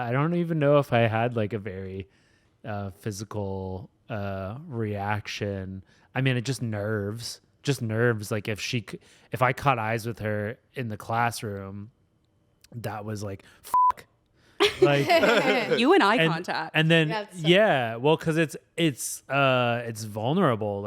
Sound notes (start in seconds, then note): 13.7 beep; 14.6 everyone laughs